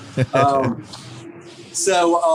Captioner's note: laughs